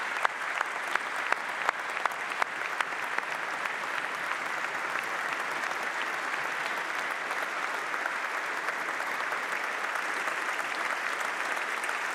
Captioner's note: applause